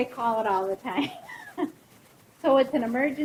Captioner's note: laughing